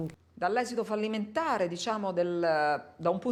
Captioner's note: in Italian